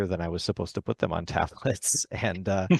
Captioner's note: laughs